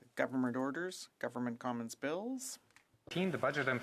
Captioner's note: speaking French